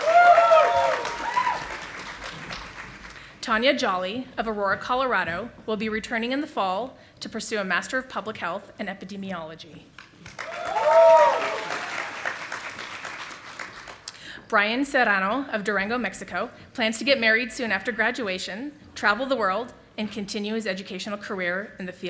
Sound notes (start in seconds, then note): 0.0 audience applauding; 10.2 audience applauding